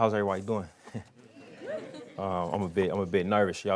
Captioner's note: indistinct chatter and cheering